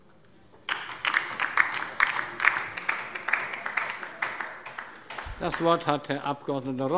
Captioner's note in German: Beifall bei der LINKEN